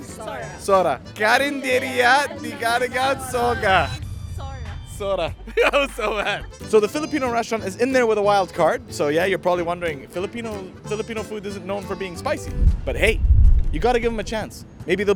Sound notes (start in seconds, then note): 5.4 laughs